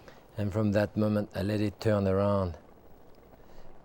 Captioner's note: none